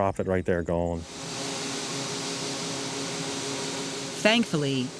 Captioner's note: combine noise